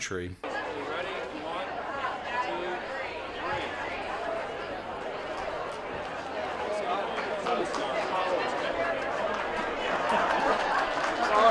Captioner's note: crowd buzz, applause